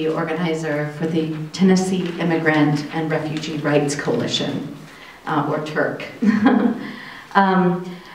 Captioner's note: laughing